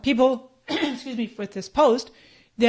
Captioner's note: coughs